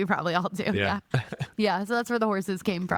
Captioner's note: laughing